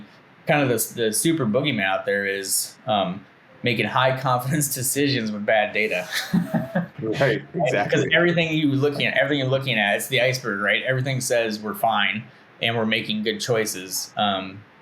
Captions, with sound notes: the super boogeyman out there is making high confidence decisions with bad data, (laughing) - Right, exactly. - Because everything you're looking at, everything you're looking at is the iceberg. Everything says, we're fine and we're making good choices,